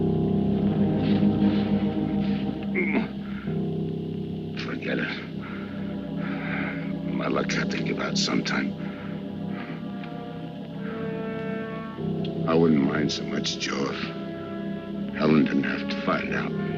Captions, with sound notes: - (groaning) Forget it. My luck had to give out some time. I wouldn't mind so much, Joe, if Helen didn't have to find out.